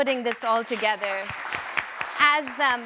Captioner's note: audience applauds